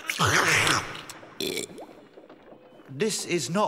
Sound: slurp!; burp!

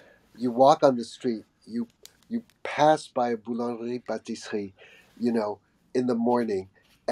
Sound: speaking foreign language

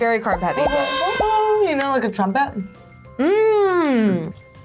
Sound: hums

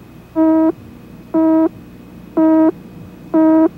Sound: countdown beeps

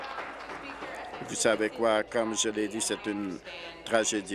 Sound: applause

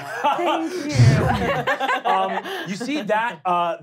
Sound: laughing; wooshing

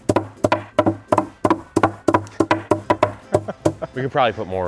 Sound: wood hammering

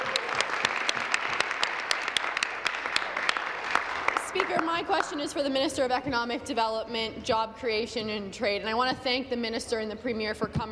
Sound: applause

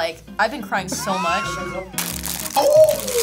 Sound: laughs

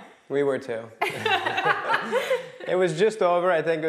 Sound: laughing

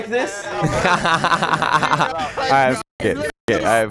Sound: laughter

